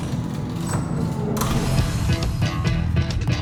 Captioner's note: door closing; psychedelic music